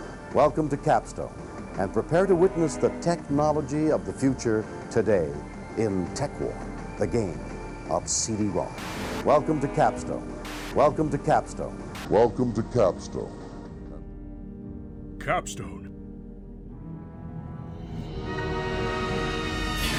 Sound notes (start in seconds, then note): 10.4 static; 11.8 static